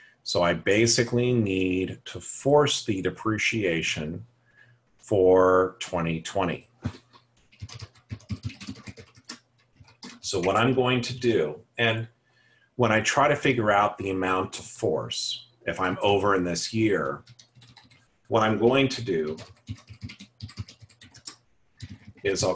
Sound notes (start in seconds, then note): 6.9 typing; 19.0 typing